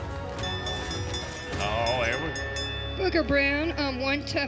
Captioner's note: bell rings